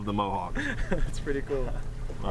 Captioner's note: laughing